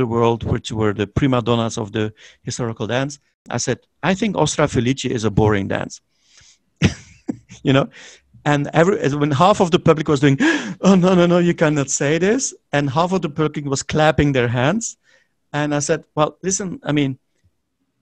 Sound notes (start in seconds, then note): 6.8 he giggles